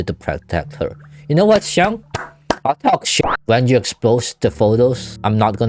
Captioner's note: more clapping hands